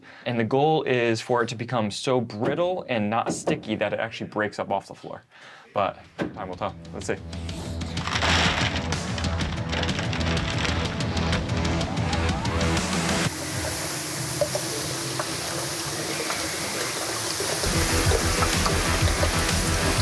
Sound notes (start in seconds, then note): 8.7 ice falling; 13.2 liquid pouring